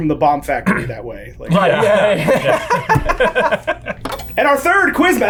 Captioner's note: laughing